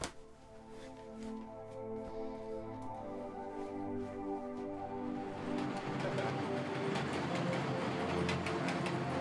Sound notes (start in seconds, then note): 0.1 music - emotional; 4.1 sound of travelling Train